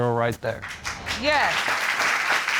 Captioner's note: applause